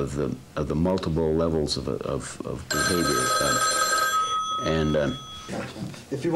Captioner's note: phone rings